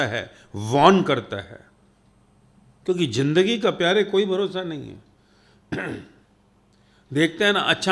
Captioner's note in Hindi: गला साफ़ करने की आवाज़